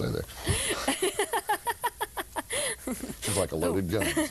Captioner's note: laughing